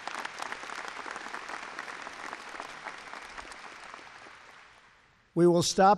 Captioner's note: laughter and applause